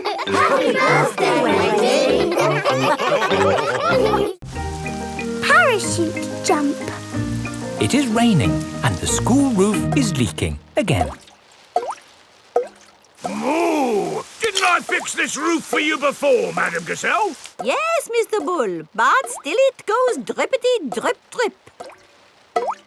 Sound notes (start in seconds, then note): 3.0 all laughing; 12.4 water dripping